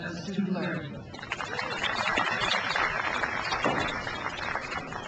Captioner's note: crowd applauds